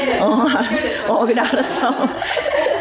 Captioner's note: laughing